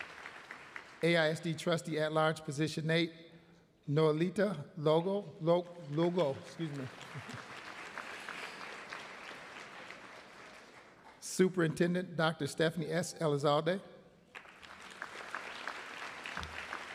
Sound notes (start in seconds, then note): 5.9 applause